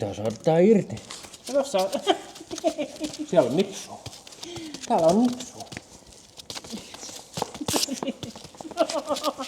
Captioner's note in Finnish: naurua